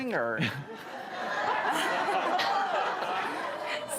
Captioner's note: laughing